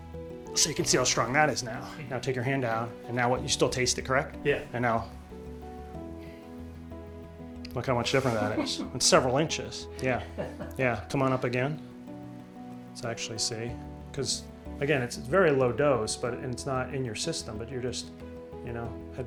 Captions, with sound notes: So you can see how strong that is now. Now take your hand down. And now you still taste it, correct? Yeah. And now... look how much different that is. [Laughter] It's several inches. Yeah. Yeah. Come on up again. Let's actually see because again, it's very low dose but it's not in your system, but you're just, you know...